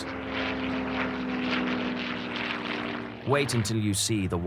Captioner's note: plane engine roaring